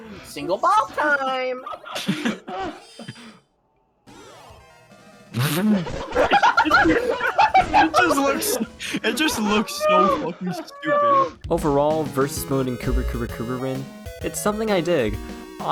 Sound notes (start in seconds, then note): 7.8 everyone laughs